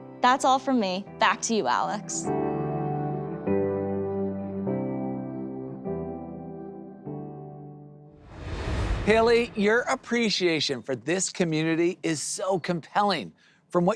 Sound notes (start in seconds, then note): 1.2 upbeat music; 8.2 air whooshes